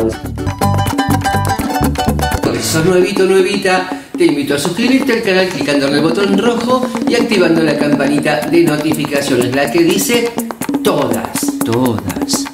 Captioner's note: laughs